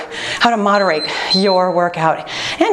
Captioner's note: timer beeping